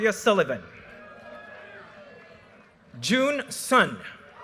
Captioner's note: audience cheers and applause